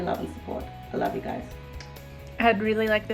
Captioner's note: kiss